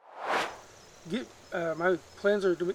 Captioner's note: air swooshes